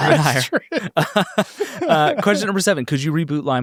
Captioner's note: everyone laughs